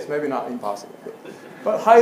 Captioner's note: laugh